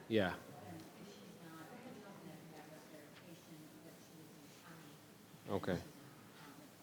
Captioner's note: faintly speaking